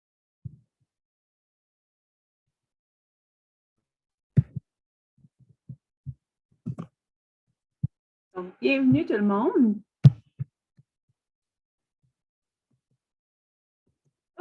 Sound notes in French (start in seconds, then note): 0.7 silence